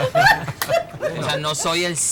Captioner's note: laughs